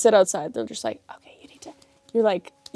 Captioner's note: whispers